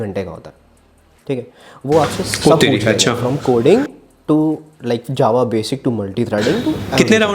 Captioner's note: oh!!